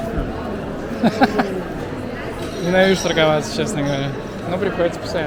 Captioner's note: giggle